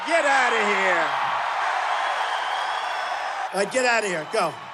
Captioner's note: cheering